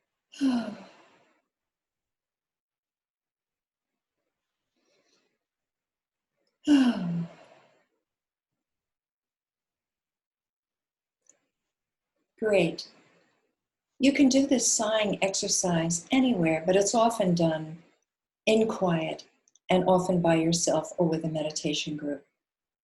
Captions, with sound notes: [Sigh] [Sigh] Great. You can do this sighing exercise anywhere, but it's often done in quiet, and often by yourself or with a meditation group.